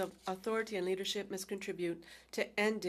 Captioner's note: speaking French